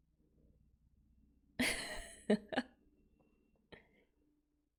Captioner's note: laughs